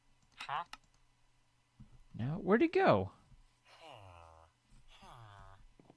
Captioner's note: chattering continues